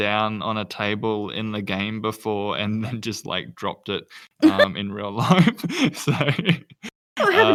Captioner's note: laughs